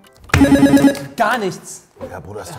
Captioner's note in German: Buzzer